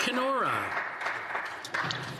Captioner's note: some Applause